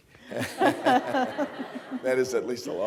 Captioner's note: laughter